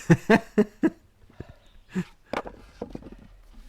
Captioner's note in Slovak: smiech